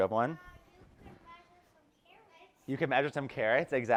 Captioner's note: child's Voice